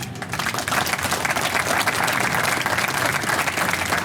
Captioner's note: audience applause